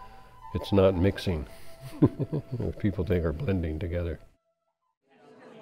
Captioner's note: chuckles